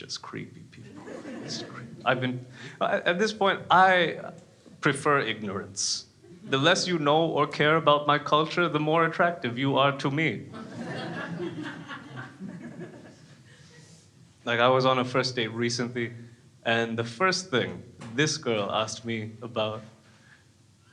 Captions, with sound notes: just creepy, just creepy. I mean, at this point I prefer ignorance. The less you know or care about my culture, the more attractive you are to me. (crowd laughing) Like I was on a first date recently. And the first thing, this girl asked me about,